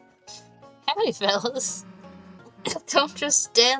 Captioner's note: laugh